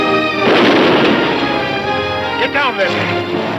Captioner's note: gun firing